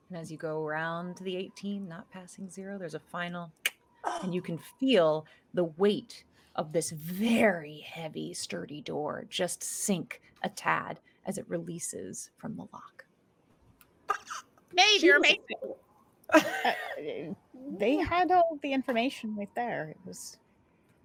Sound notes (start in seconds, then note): 3.6 snaps tongue